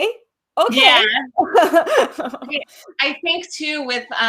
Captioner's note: laughs